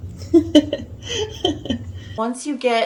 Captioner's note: laughs